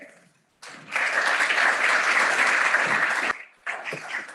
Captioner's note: applause